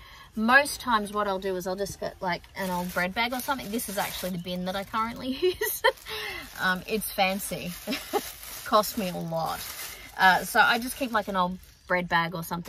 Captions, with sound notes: Most times what I'll do is I'll just get like an old bread bag or something. This is actually the bin that I currently use. [scoffs] Um, it's fancy. [laughs again] It cost me a lot. Uh, so I just keep, like, an old bread bag or something,